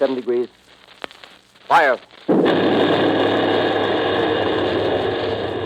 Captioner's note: boom of heavy gun . . . pause